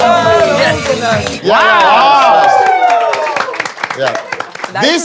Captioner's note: everyone is cheering